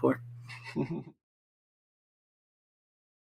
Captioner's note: laughs